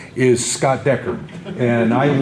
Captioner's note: audience laughter